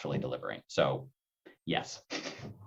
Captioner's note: chuckles